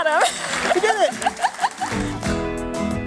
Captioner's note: applause